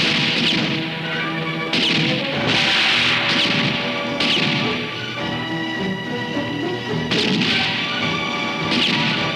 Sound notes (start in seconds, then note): 1.9 dramatic music continues; 1.9 guns roaring